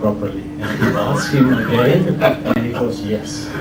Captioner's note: chuckles